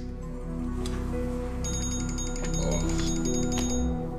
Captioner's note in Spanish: Suena un celular